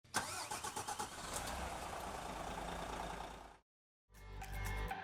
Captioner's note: vehicle engine starting